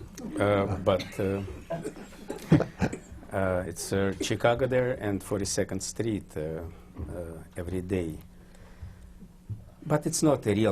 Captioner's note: laughter